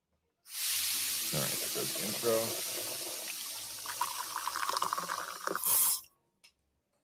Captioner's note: liquid sloshing